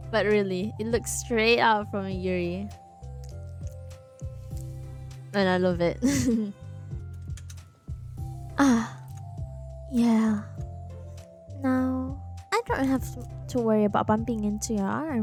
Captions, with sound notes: But really, it looks straight out of a Yuri And I love it *laughs*